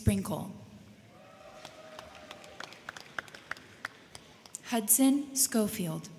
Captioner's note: crowd cheering; crowd clapping